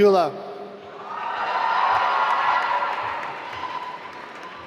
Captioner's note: applause